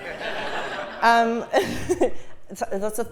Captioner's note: laugh